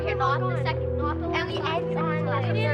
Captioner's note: chatter